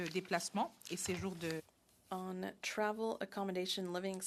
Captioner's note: speaking French